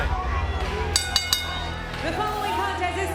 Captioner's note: bell rings